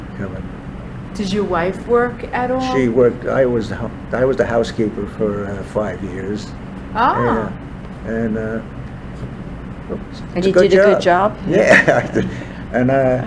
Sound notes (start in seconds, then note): 11.4 laughs